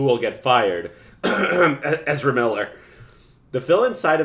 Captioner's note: cough cough